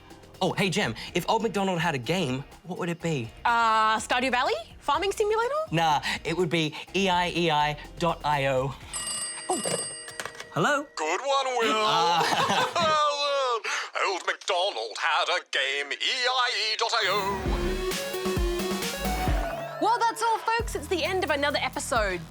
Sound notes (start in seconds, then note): 8.9 phone rings; 11.4 laughs